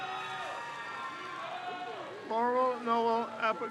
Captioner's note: crowd cheers